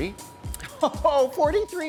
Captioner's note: laughing